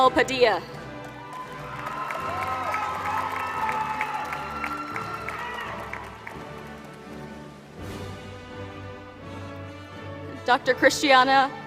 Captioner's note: applause